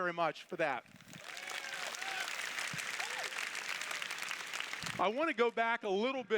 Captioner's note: applause